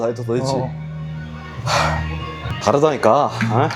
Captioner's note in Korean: 콧방귀